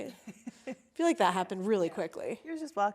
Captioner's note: laughing